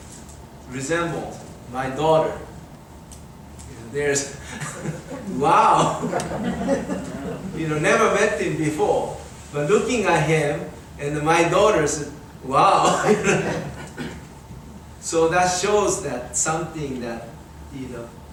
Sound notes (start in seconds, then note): 5.8 speaker and audience chuckles; 13.2 laughs